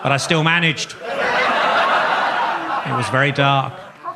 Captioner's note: audience laughs